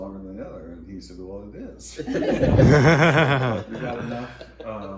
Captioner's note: all laughing